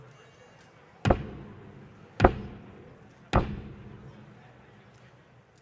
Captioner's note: cane thumping echoes